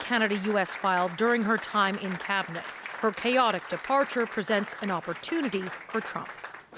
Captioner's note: applause